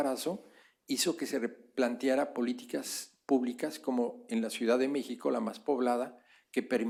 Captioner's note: spanish; spanish